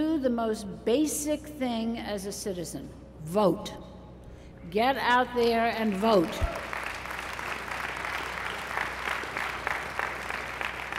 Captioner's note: applause